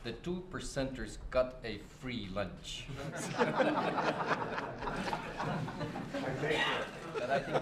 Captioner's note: laughter